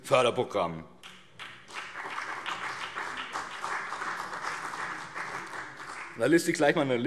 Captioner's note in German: Vereinzelter Beifall BÜNDNIS 90/DIE GRÜNEN und CDU